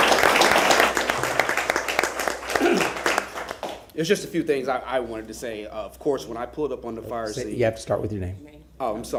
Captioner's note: applause